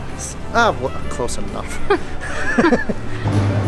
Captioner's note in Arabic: يضحك